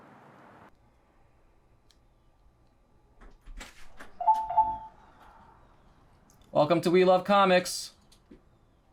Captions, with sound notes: (bell beeping) - Welcome to We Love Comics.